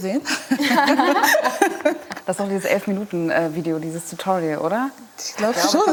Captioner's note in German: Gelächter